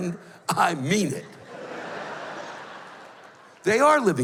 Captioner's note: laughter